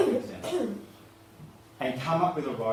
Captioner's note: coughing